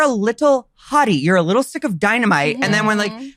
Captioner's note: freaking out sounds